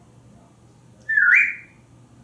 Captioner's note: whistling